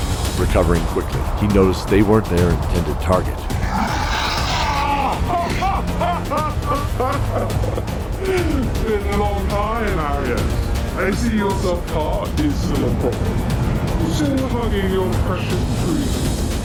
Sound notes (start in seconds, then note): 4.0 chuckles